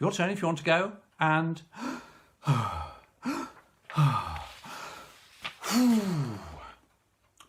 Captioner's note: deep breaths